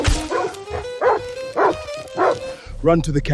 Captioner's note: heavy impact